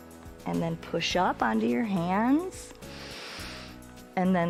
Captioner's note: inhales